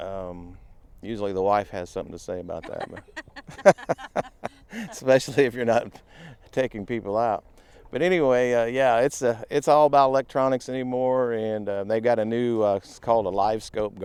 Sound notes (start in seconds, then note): 2.6 laughing